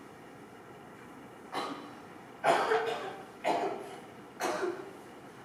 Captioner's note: Alice coughs